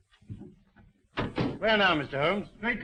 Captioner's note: door slamming